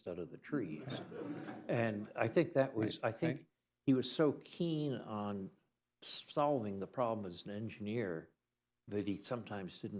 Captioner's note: laughter